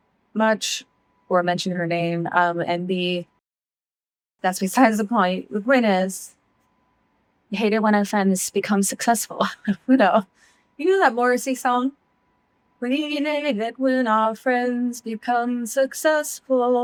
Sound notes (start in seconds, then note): 9.5 chuckles